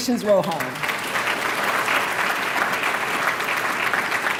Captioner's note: applause